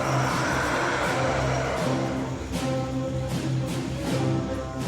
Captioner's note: screeching